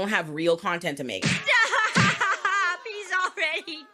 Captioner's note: laughing